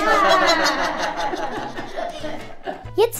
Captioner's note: everyone is laughing; energetic jazz music